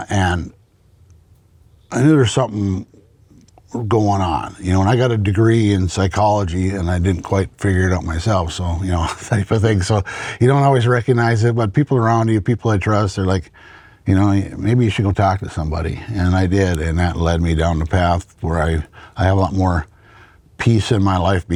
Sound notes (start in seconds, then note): 8.8 laughs